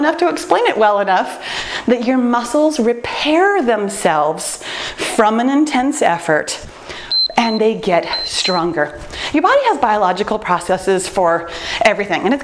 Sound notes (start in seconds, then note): 7.0 timer beeps